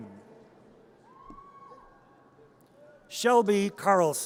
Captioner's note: audience cheers